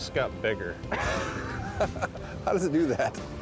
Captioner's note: laughing